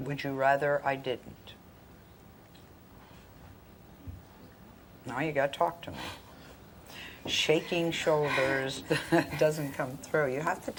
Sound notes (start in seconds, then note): 6.8 laughs